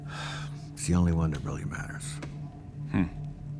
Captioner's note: sighs